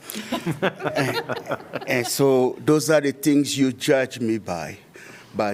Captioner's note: laughter